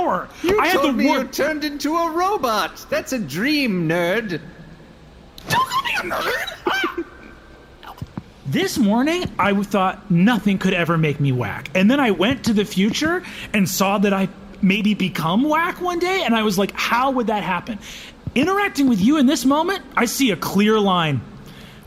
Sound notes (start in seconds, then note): 6.0 shouting